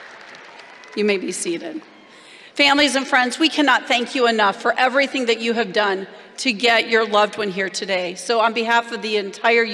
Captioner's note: applause